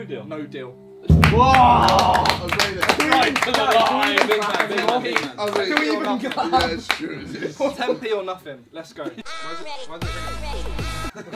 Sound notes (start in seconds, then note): 1.1 all cheering and clapping